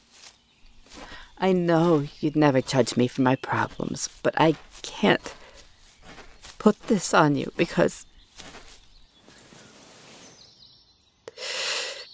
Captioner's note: walking stops; fighting tears